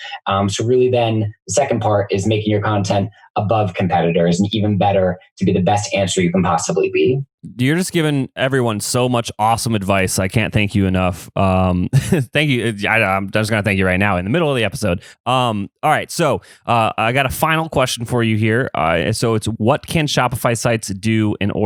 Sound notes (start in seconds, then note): 11.6 laughs